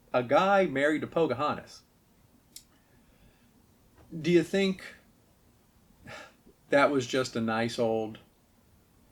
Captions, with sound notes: a guy married to Pocahontas. Do ya think... (chuckles) that was just a nice old...